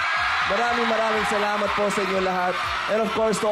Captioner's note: audience screaming